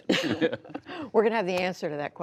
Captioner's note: laughter